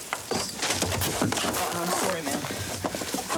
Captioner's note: thudding